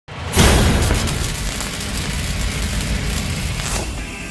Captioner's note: welding sparks crackling